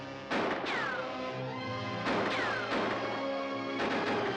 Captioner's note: gun firing